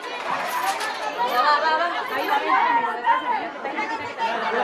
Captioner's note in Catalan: cridòria